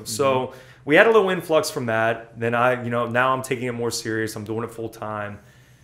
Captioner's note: none